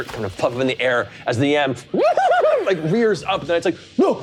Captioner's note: imitates yam neighing